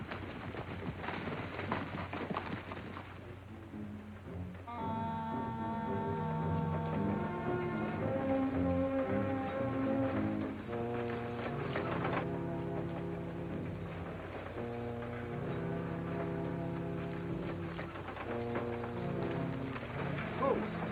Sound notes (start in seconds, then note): 1.1 horses galloping; 4.8 ominous music; 10.1 wagon creaking; 10.1 wheels crunching; 18.8 dramatic music